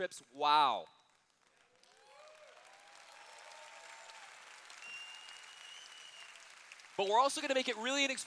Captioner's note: cheers